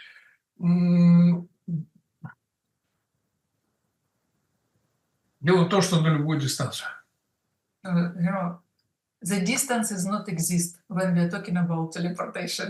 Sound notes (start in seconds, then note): 8.5 Russian